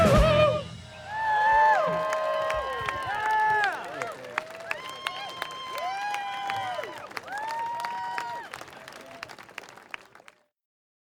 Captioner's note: audeince applaud